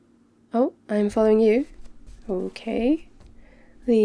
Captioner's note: footsteps